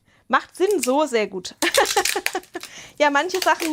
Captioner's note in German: Gelächter